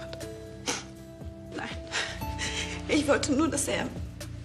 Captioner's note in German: schnieft